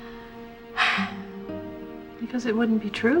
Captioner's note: exhales